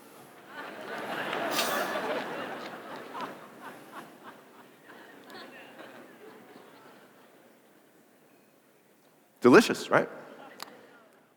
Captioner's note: laughter